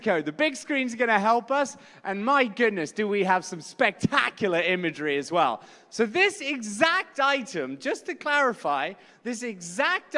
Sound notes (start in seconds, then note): none